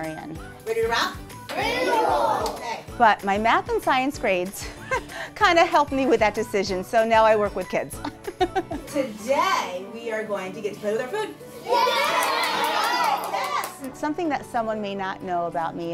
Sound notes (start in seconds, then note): 8.0 laughing; 11.6 cheering